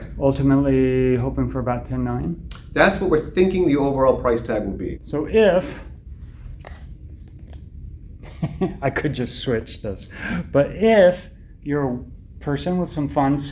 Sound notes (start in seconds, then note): 8.3 laughs